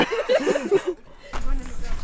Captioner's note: laughs